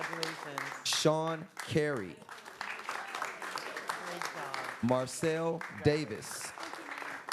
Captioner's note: applause